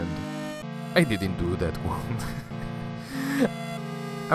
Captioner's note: laughs